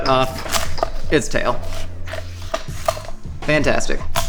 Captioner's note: chopping sound